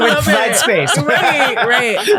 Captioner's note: all laughing